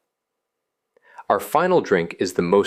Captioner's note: pause